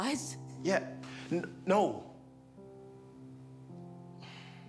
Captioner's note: sighs